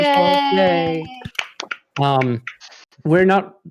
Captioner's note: applause